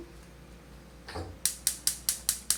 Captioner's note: stove clicks